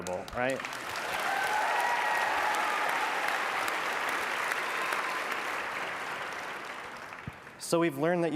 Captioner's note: applause